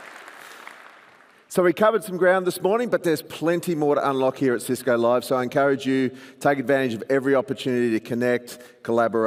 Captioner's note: applause